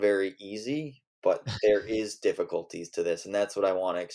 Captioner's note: laughs